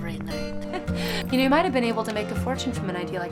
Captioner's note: laughing